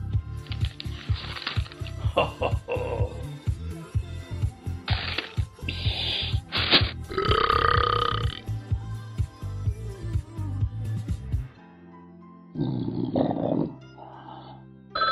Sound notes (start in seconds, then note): 2.0 loud low chuckle; 5.6 shushing; 7.0 burping; 12.6 snoring; 14.9 telephone rings